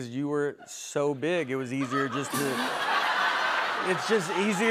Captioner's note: laughter